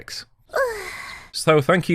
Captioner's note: 'anime' sigh